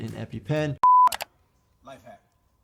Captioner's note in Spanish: clic